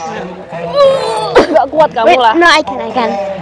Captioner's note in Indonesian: Teriak